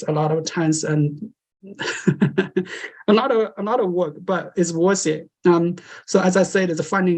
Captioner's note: laughter